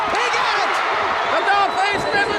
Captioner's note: audience cheers